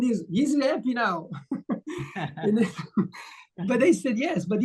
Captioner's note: laughter